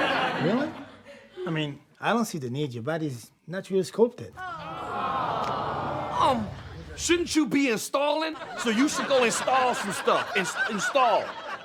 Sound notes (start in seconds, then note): 4.4 audience awwing; 8.2 audience laughs